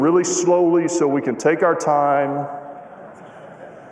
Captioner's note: laughter